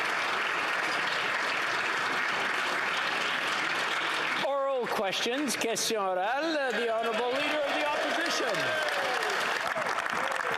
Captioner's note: some Applause